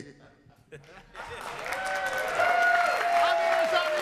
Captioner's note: audience applauding